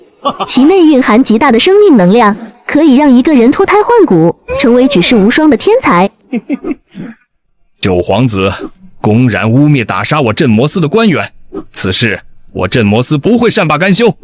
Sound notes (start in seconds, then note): 6.3 sinister chuckle